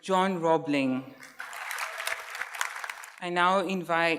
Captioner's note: audience cheers and applauds